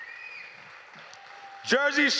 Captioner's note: cheers